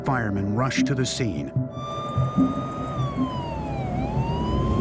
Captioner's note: siren wailing